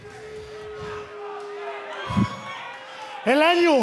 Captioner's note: crowd cheering